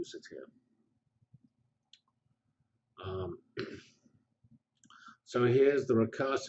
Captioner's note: pause